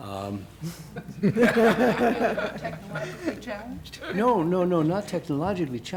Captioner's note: laughing